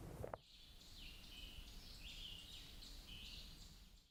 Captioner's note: birds chirping